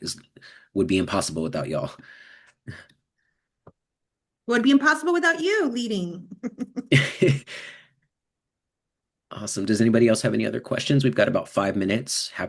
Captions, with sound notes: It would be impossible without y'all. Would be impossible without you leading. [LAUGHS] [CHUCKLES] Awesome. Does anybody else have any other questions? We've got about 5 minutes.